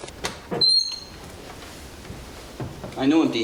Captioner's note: door creaks